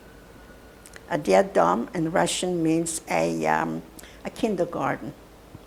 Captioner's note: russian